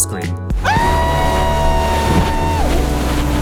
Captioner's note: screams